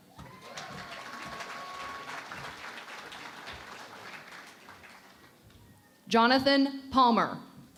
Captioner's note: cheering and Applause